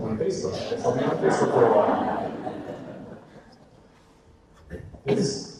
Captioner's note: audience laughter